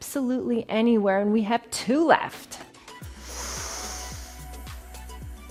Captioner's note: inhales